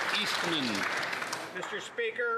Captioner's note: some Applause